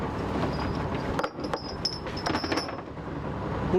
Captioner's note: sound of a bell on the net